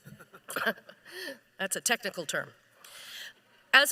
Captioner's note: laughs